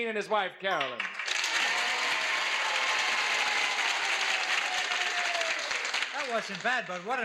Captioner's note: audience applauds